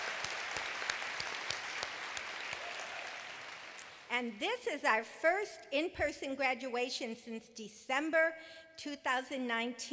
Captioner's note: applause